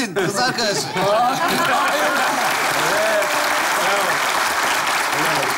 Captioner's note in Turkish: Alkış sesleri